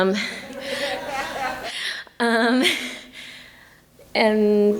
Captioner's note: audience laughing